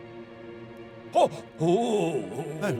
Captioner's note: Moth Napper growls